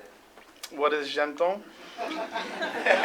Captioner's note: non-english speech